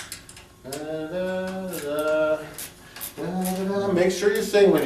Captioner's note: humming